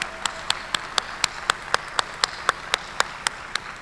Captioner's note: applause